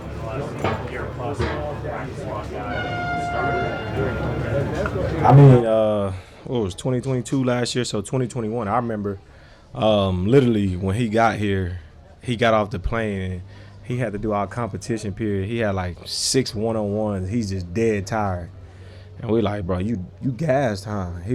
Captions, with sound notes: in the last year, or plus? (crowd murmuring) (horn honks) I mean, what was 2022 last year? So 2021. I remember literally, when he got here, he got off the plane and he had to do all competition period. He had like six one on ones. He's just dead tired. And we are like, bro, "you you gassed, huh?"